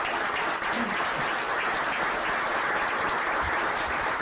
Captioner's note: applause